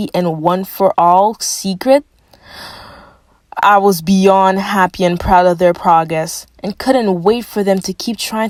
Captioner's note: takes deep breath